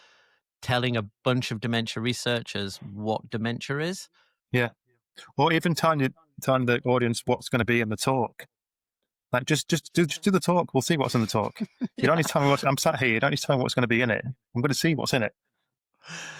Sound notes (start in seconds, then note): 11.0 chuckles